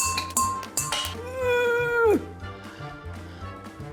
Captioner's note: dink! dink! dink!; groans